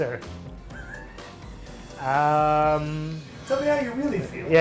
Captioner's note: chuckles